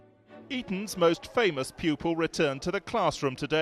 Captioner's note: voiceover